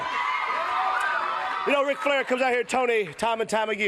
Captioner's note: crowd cheering